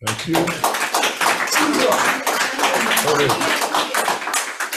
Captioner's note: audience applauds